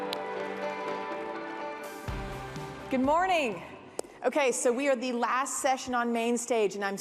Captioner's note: cheers and applause